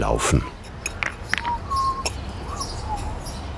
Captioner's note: he whistles happily